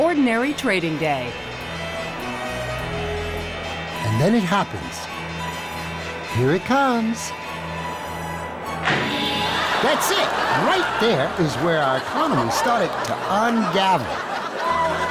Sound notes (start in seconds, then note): 9.0 audience laughs